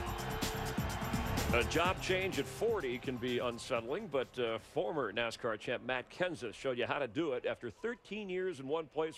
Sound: cheering

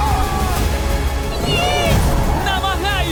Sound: girls yelling

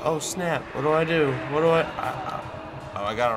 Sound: moans

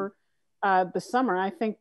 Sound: none

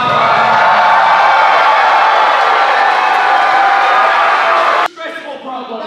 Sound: crowd cheers

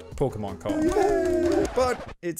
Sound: cheers

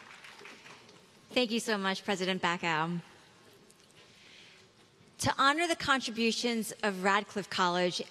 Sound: applause

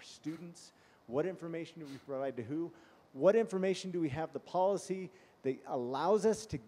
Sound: sniffing

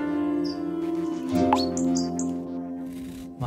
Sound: instrumental music; bubble tone

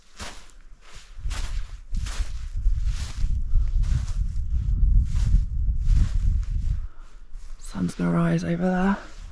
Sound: crunchy footsteps

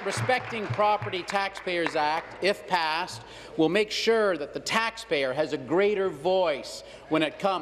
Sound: applause

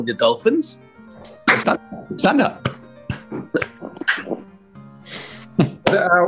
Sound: slow applauding

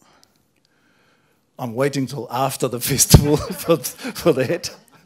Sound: laughter

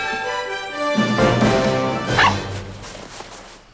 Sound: barking

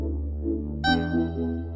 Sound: honk

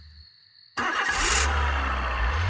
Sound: engine starts

